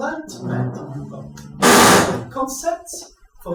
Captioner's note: banging in background